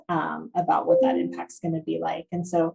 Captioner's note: computer chiming